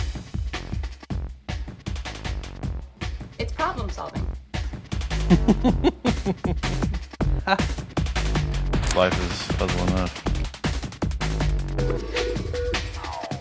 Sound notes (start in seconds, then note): 5.2 laughs